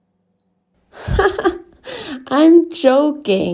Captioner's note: riéndose